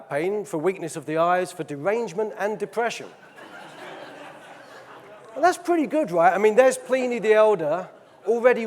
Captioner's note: audience laughing; audience laughing